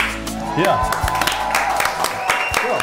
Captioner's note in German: Jubel, Applaus